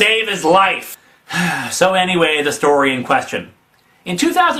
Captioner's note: sigh